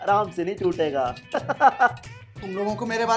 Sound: laughing

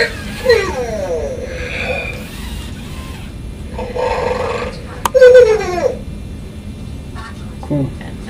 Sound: RoboSapien snores

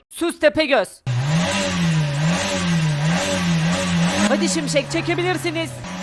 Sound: car sound

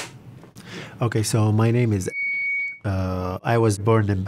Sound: microphone feedback

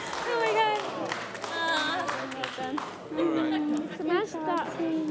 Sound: people talking

